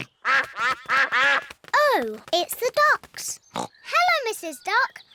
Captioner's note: quacking